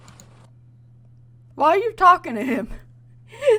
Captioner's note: laughs